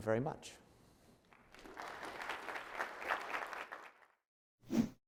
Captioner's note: audience applauds